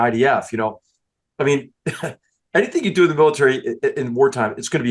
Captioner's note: laugh